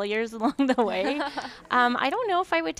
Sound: laughing

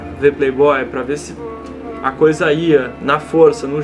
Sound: hmph

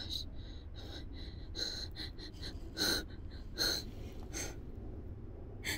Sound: heavy breathing

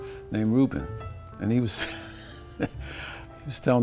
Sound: laugh

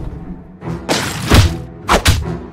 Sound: smash

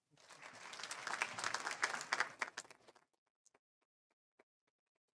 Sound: audience applauding

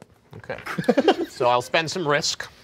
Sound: laughing

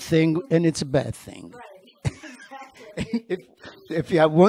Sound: laughing

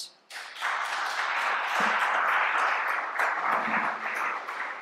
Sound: applause

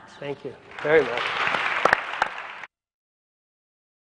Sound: applause

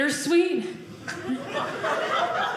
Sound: audience laughing

